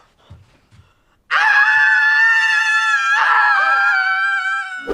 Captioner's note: both screaming